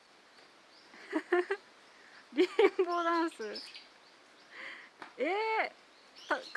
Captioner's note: laughs